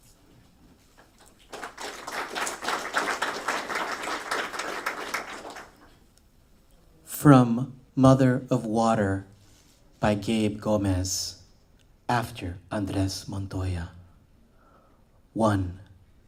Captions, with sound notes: [applause] From Mother of Water by Gabe Gomez, after Andrés Montoya. One.